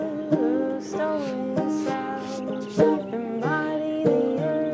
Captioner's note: fingers sweep over gourd